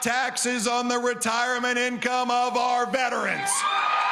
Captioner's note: cheering & applause